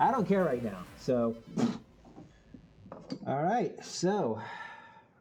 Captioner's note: puff